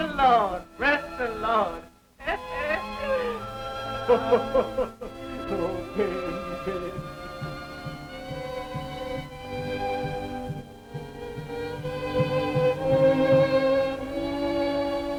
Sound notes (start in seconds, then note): 2.2 laughs; 7.2 sentimental music